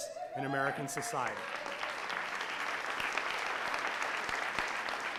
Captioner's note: audience applauding